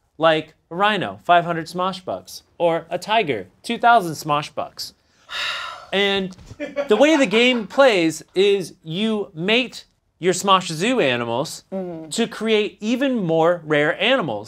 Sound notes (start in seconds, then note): 6.6 raucous laughter from offscreen